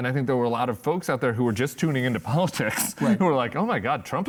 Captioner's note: laughs